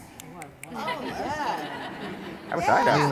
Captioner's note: everybody laughs